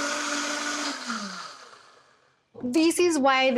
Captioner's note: whirring stops